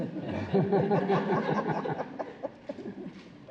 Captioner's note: laughter